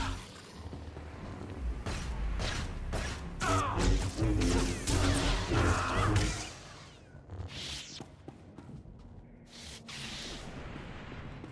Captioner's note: gunshots